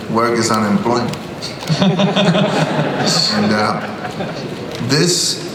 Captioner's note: laughter